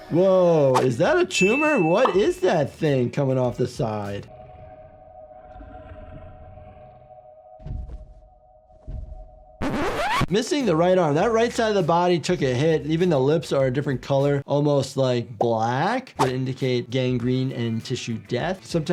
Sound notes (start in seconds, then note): 4.3 eerie music; 8.8 footsteps thudding